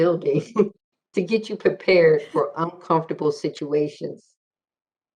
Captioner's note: laughing